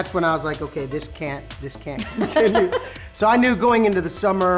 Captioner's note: laughs